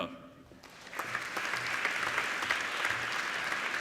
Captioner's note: applauding